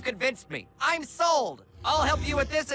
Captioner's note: grunting